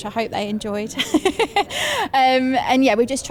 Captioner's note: laughs